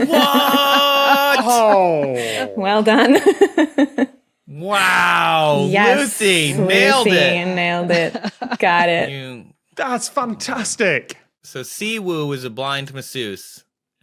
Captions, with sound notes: What?! Ohh! Well done. (giggles) Wow, Lucy nailed it. Lucy nailed it. (laughs) Got it. That's fantastic! So Si Woo was a blind masseuse